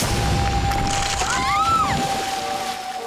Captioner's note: screaming